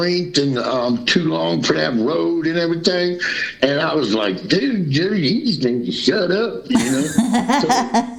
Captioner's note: laughter